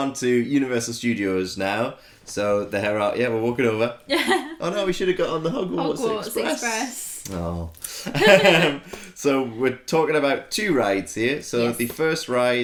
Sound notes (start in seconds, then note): 8.0 laughter